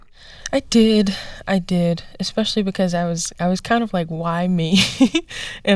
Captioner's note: laughter